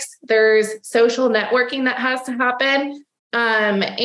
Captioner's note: none